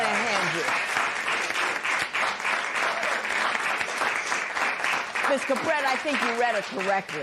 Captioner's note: applause